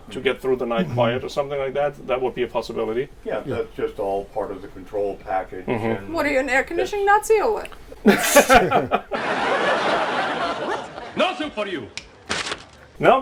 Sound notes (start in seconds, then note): 8.0 laughs; 9.6 audience laughs